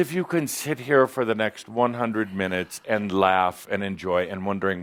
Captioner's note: none